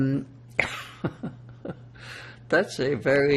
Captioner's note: laughing